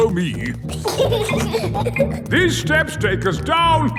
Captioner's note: giggling